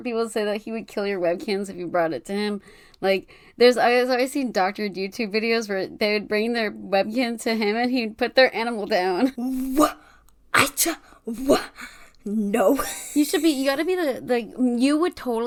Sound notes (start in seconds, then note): 12.5 stammers